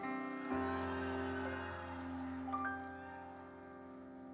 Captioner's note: audience cheers